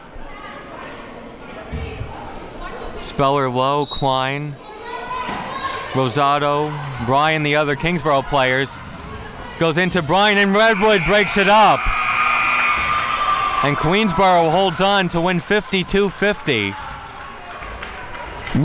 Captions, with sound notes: Speller-Lowe, Klein, (Referee blows whistle) Rossato, Bryan, the other Kingsborough players, goes into Bryan and Redwood breaks it up. (clock buzzes) (Crowd cheering) And, Queensborough holds on to win 52-50.